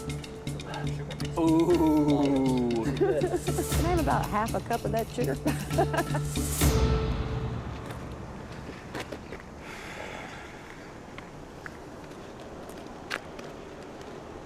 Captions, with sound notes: AH, OOH! CAN I HAVE ABOUT HALF A CUP OF THAT SUGAR? [ LAUGHS ]